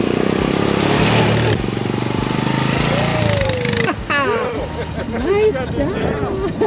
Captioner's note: Revving ATV engines and laughing